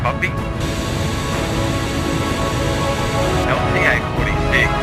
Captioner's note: Static